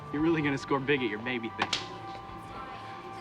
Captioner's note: slaps